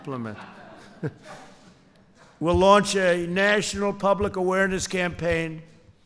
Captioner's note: laughter